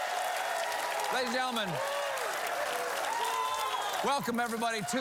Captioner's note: applause